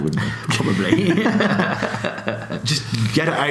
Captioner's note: laughs